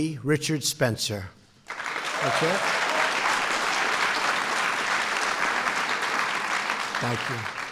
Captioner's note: applause